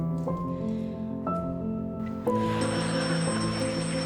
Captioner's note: sighs, bell sound